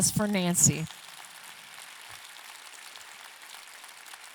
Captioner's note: audience clapping